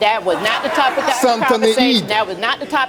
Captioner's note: audience gasps and laughs